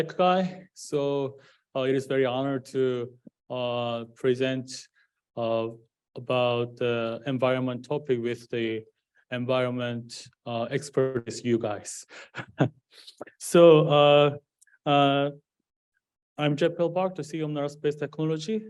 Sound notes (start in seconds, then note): 12.2 laughs